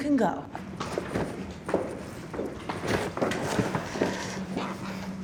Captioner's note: footsteps thunking